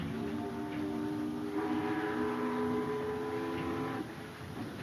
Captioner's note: ship horns blare